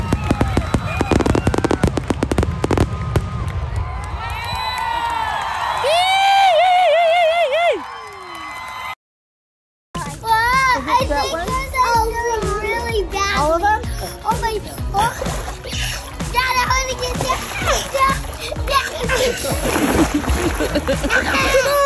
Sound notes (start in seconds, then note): 0.0 fireworks booming; 5.1 loud cheering; 6.7 applause; 19.0 laughter